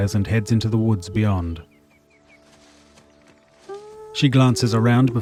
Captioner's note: birds chirping